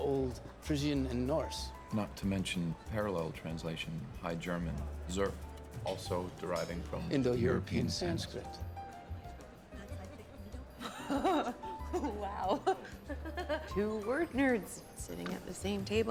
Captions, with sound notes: NOT TO MENTION THE PARALLEL TRANSLATION FROM THE HIGH GERMAN "SURF," ALSO DERIVING FROM-- -...INDO-EUROPEAN-- -...SANSKRIT. [LAUGHING] OH. WOW. TWO WORD-NERDS SITTING AT THE SAME TABLE AT THE POSTAL BALL.